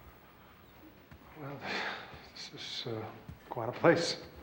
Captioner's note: sighs